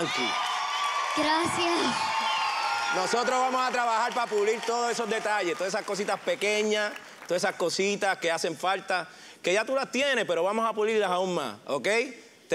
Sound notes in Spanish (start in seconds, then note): 2.3 aplausos; 2.4 gritos y exclamaciones